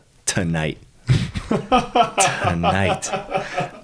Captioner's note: laughing